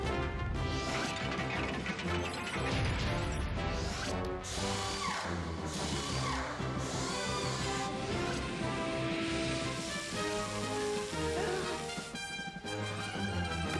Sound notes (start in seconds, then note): 12.1 gasps